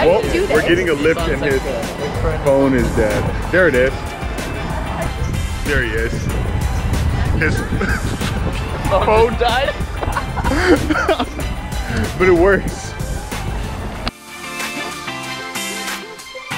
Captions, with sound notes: welp we're getting a lyft and his phone is dead there it is there he is his, phone died *laughter* but it works